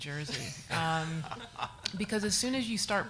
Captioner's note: audience laughs